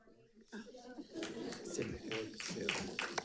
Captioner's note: audience laughs; medals rattling; audience applauding